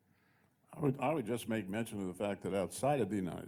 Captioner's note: voiceover